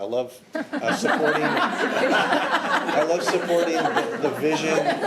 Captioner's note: audience laughing